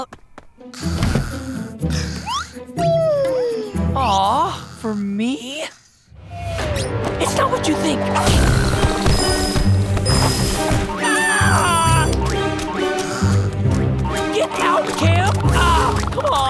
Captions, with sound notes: [snoring] [yawning] Aw, for me? It's not what you think. [screaming] [snoring] Get out, Cam! Ah, come on.